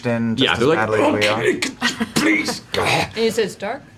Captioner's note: strained